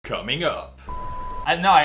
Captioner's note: beep